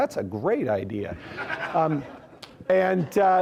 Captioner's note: students laughing